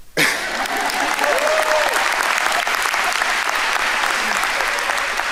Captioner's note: audience applauding and cheering